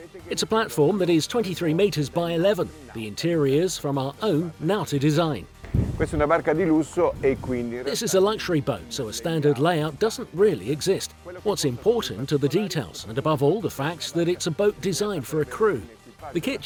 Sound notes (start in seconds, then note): 6.0 in foreign language